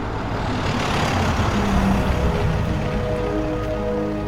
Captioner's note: engine revs